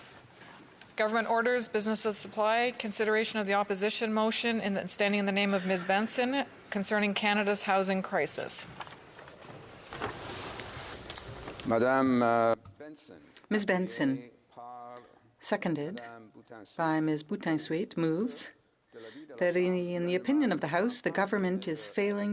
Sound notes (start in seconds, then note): 4.2 speaking French